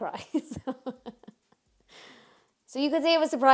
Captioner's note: laughs